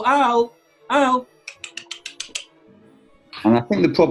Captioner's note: clicks tongue